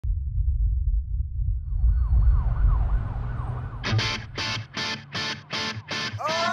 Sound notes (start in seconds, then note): 2.0 police siren; 3.8 tempo music